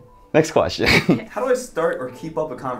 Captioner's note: laughs